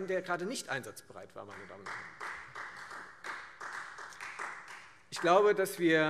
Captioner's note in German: Beifall Freie Demokraten